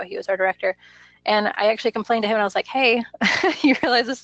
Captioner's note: laughs